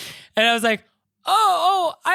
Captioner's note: gasping